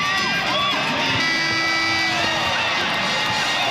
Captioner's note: buzzer